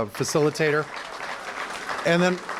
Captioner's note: applause